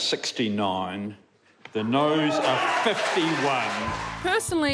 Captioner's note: audience cheering